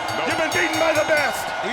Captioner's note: bell ringing